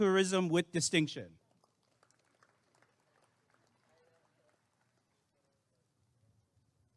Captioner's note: applause and cheering